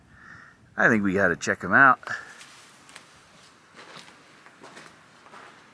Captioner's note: rustling dirt